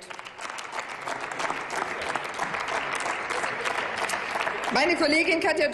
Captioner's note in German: Applaus